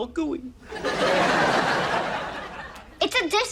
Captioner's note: audience laughs